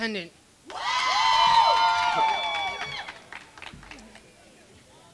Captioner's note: crowd cheering